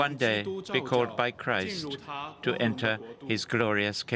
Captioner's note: speaking Alternate Language